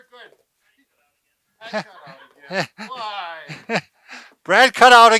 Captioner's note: laughs